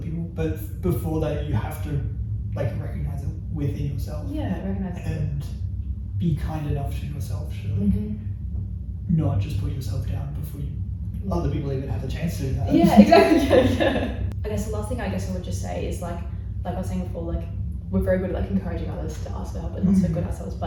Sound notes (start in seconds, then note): 12.7 laughs